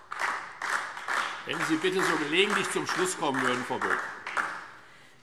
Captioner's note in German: Beifall DIE LINKE